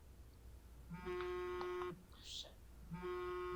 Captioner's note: phone buzzing